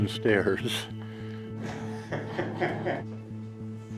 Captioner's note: laughs